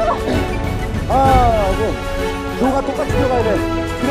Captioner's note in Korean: 헉...헉